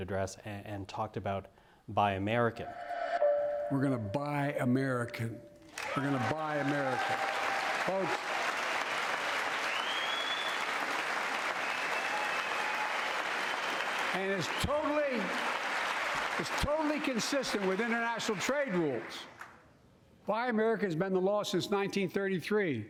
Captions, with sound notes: and talked about Buy American. We're going to buy American. We're going to buy - American, folks. [Applause] And it's totally-- it's - totally consistent with international trade rules. Buy American has been - the law since 1933